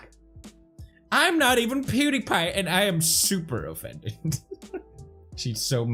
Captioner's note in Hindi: हंसी में तोड़ता है